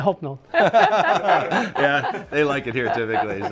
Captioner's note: group laughing